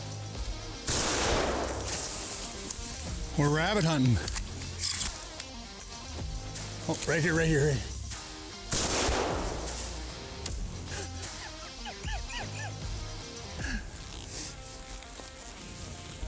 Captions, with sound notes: We're rabbit hunting. Oh, right here, right here. (hunter laughs)